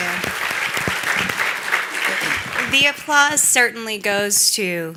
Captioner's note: applause